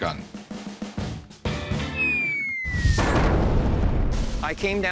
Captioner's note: explosion; whistling